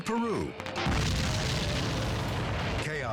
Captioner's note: fireworks exploding